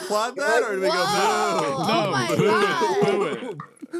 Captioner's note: clapping